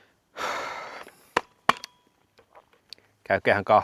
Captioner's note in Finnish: huokaus